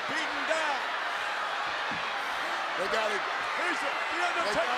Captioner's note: applause